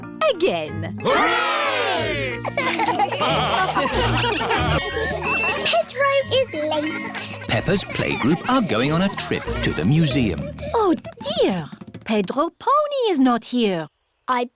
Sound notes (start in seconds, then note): 2.3 laughter; 4.8 kids giggling